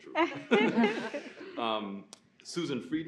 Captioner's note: guests laughing